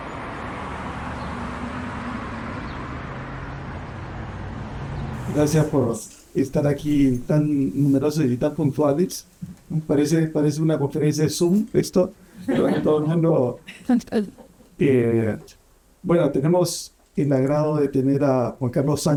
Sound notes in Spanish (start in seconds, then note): 12.4 risas